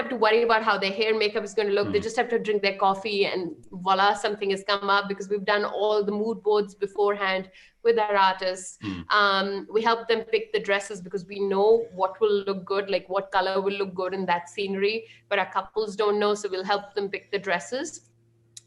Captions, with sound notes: We give them the templates, we give them the assets. Like when we launched email marketing back in the missing month of June, (chuckles) right? When we launched that, I basically sat down like, with my copywriting experience in business knowledge, I basically wrote like, I don't know.